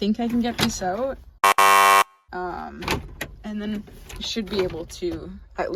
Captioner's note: buzzer noise